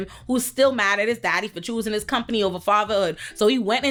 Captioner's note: none